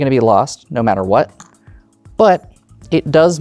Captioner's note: tokens clattering